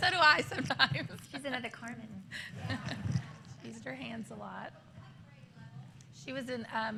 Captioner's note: laughter; laughter